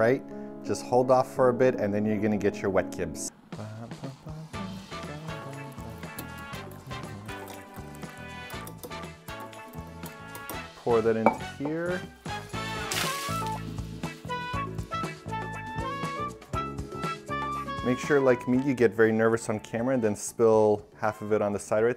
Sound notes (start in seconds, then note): 4.5 cheerful music; 12.6 splash